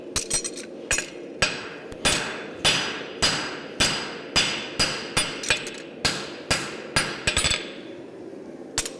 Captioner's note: sharp metallic hammering